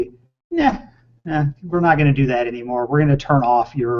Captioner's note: dismissive vocalization